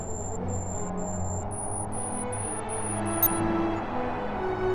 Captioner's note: scanner beeping intensifies